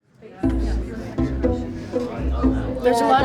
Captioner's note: students chattering